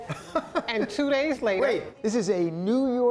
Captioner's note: laughter